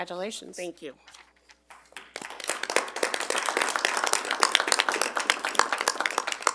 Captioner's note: attendees applauding